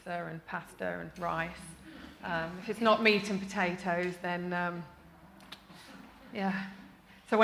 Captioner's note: sigh